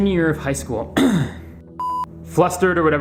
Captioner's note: clears throat